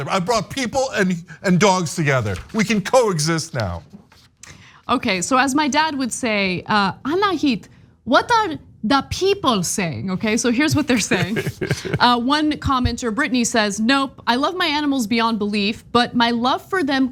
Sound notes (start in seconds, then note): 10.7 laugh